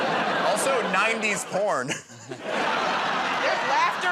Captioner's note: chuckles